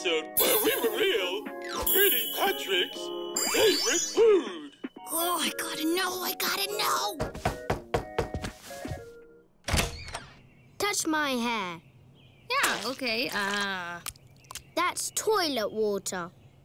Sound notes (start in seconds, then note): 7.2 knocking